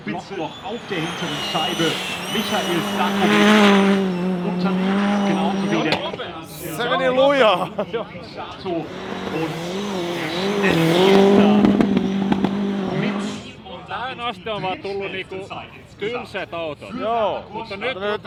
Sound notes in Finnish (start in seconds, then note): 0.0 moottorin ääniä